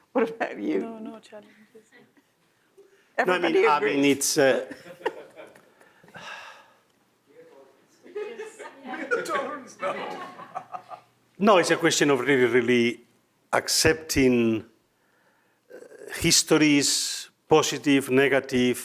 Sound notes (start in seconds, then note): 4.5 attendees laughs; 4.5 laughs; 8.0 attendees laughs